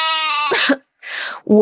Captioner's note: cough